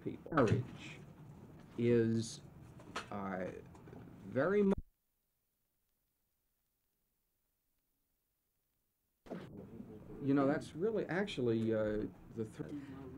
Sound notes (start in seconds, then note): 5.1 silence